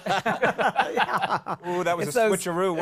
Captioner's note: laughter